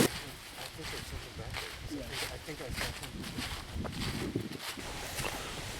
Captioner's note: leaves crunching; wind gusting; leaves crunching continues